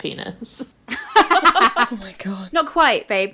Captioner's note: both laughing